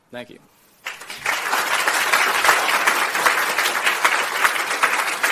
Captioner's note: audience clapping